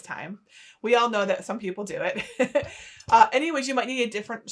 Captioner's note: chuckling